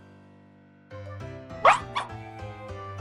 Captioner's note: Guineite Cry